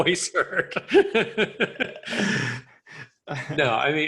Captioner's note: people laughing